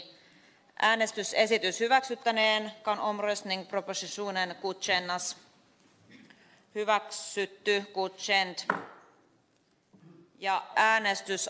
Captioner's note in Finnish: nuijan kopautus